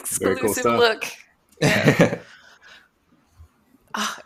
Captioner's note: chuckling